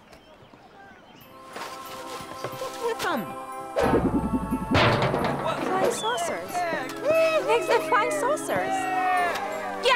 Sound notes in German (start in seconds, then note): 1.3 mystische Musik; 3.9 surrt; 4.8 klirrt